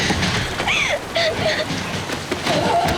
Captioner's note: crying